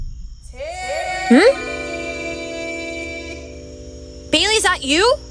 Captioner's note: distant echo